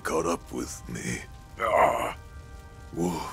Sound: groans in pain

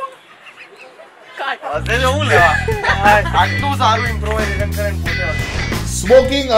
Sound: indistinct chatter behind the camera

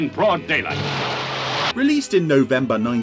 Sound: car wheels spin

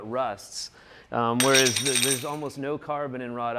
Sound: metal dropping

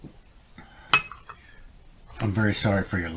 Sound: mug clinking

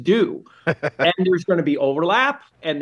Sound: laughs

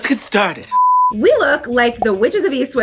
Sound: beep

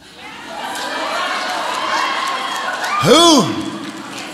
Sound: audience applauds

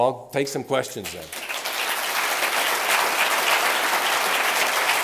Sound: applause

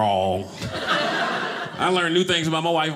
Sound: audience laughing

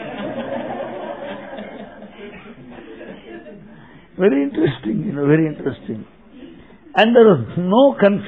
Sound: laughter

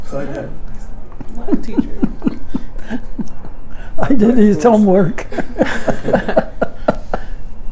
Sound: laughing

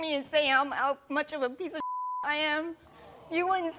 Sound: audience groans

